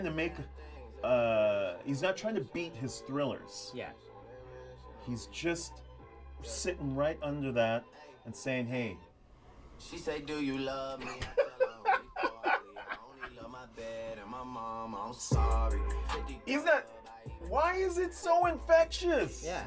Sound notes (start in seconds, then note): 10.9 laughing; 11.2 sings